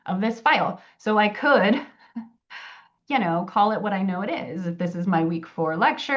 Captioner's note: chuckles